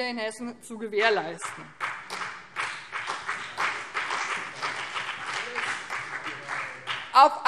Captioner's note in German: Beifall BÜNDNIS 90/DIE GRÜNEN und CDU